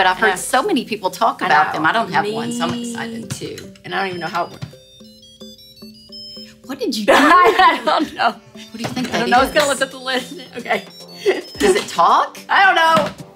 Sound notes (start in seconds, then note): 6.0 pot chimes